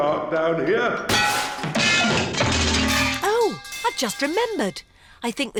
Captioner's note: clanging and crashing